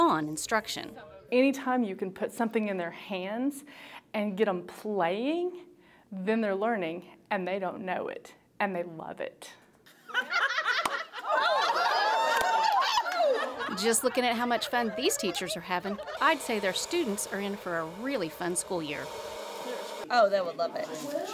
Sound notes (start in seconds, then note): 10.0 laughing